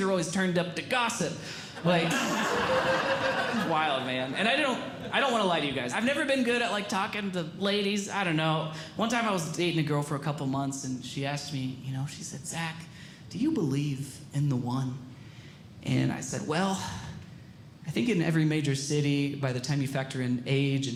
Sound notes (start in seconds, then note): 1.8 audience Laughing